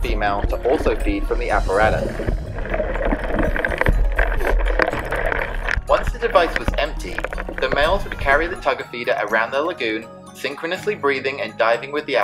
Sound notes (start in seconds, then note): 2.2 upbeat theme music; 2.2 water gurgles